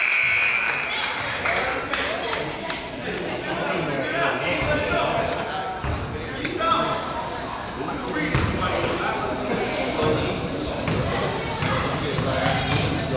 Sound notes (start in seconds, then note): 0.2 buzzer honks; 8.5 coach yells